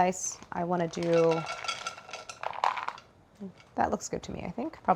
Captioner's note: nuts clinking